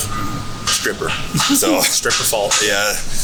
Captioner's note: giggles